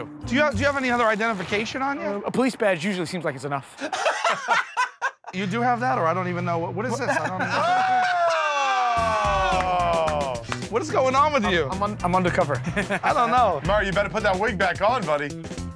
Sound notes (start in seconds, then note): 3.7 laughter; 6.9 laughs